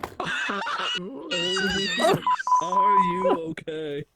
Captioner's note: wheezing with laughter; timing sync beeps